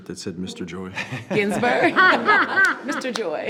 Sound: laughing

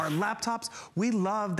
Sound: laughter

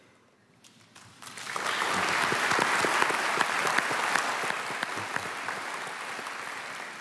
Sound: applause

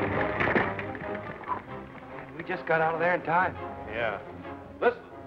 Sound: whistles

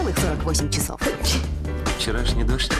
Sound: sneezes

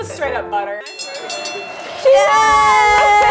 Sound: bell rings

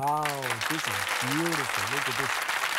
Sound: audience applauding

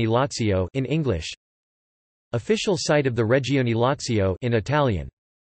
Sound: in Italian

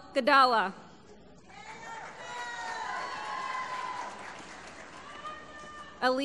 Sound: applause

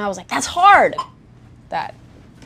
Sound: soft beeping

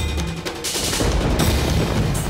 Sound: thundering

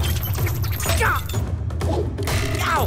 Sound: grunting

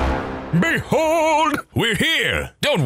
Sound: baritone voice

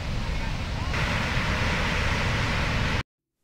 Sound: motor rumbling

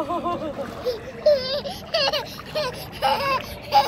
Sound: laughing

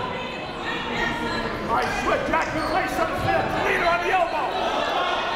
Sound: people shouting in the crowd

